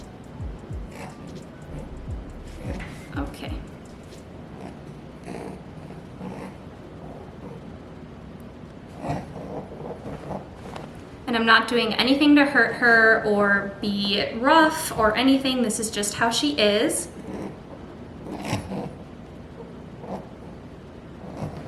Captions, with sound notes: (rabbit grunting) Okay. (rabbit grunting) And I'm not doing anything to hurt her, or be rough or anything. This is just how she is. (rabbit grunting)